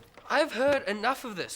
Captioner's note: chair rattling